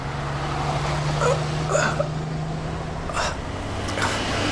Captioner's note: groans